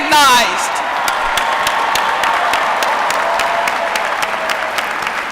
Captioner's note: applause